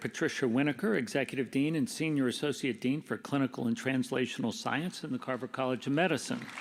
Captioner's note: applause